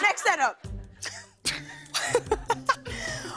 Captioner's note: laughter